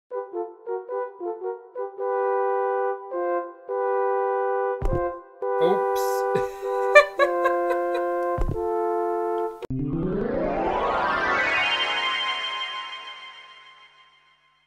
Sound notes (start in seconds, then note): 0.0 game music; 6.3 laughs; 8.6 intro music